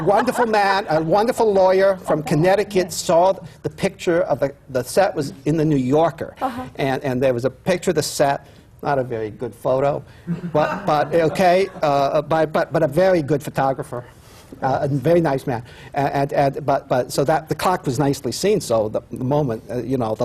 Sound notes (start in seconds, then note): 0.0 laughter; 10.3 laughter